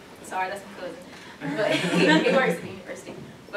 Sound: laughter

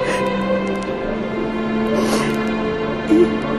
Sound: sobbing

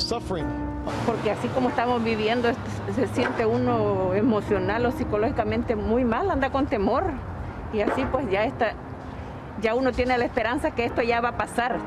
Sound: Spanish

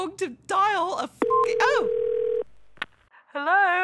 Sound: phone ringing

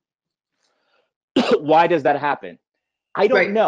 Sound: coughing

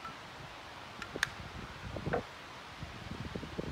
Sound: lid snaps shut

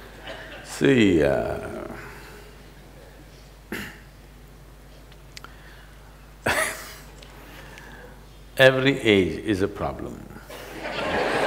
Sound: laughs; laughter

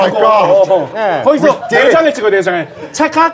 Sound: in Korean

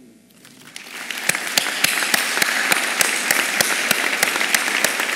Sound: applause

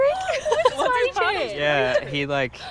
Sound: all laughing

